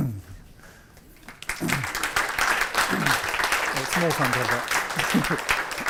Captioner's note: applause